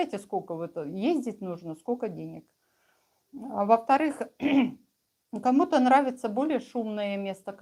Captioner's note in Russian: откашливается